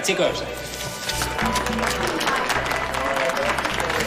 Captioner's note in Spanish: Aplausos